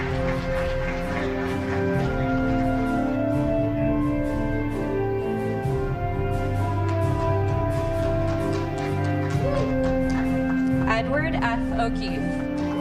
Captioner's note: applause